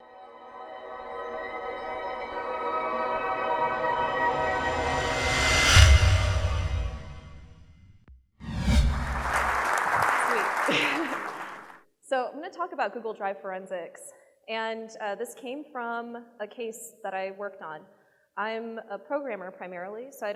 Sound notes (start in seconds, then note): 0.6 trance music; 8.9 applause; 10.2 laughs